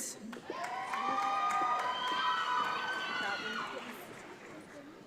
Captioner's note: audience applauds